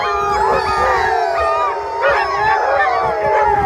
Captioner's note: dogs howl